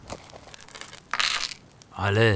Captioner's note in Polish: dźwięk monety